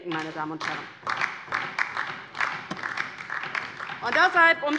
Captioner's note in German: Beifall DIE LINKE